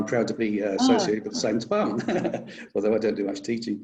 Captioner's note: laughs